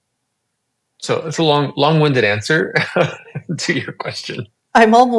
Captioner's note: laughs